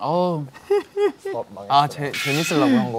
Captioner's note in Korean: ㅎㅎㅎㅎ